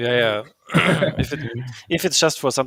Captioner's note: clearing throat; laughing